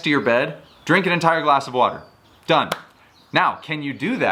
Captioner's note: hands clap